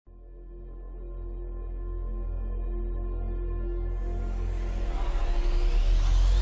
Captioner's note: ooOOoo eerie noise :O